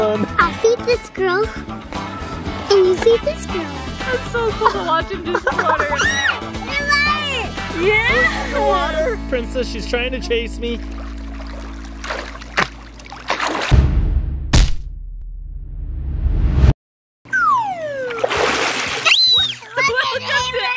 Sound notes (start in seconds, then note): 5.9 squealing; 10.7 splashing; 17.3 slide whistle; 17.7 splash and scream